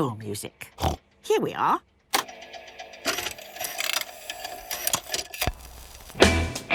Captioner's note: clicks, whirring